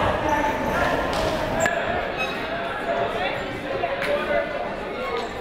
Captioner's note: crowd murmuring